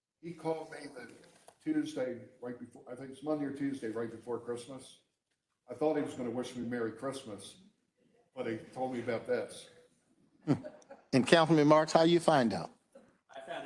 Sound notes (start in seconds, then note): 10.4 group chuckling